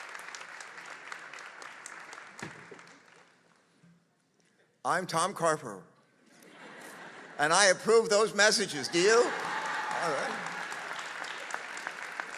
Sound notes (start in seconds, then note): 1.3 applause